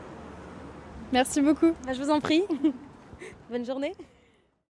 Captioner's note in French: rires